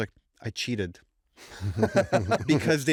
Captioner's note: laughter